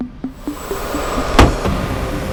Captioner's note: wind whooshing; suspenseful music